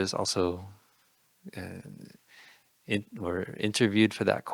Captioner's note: none